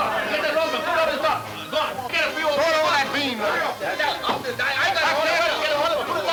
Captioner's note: men yelling simultaneously